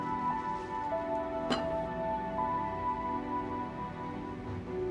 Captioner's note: object clinking